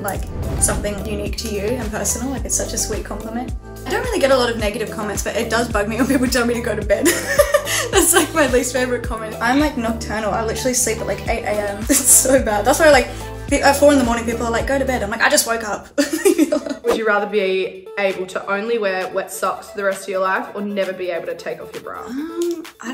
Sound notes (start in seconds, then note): 7.0 laughs; 16.0 laughs